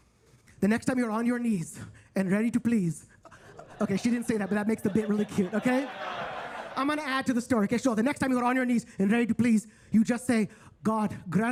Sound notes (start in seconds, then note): 3.2 attendees laughing